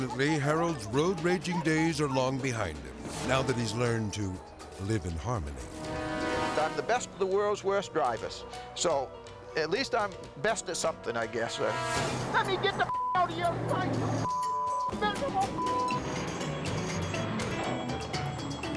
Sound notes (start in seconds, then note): 5.6 tense music; 12.9 beep; 14.7 tense music; 15.3 beep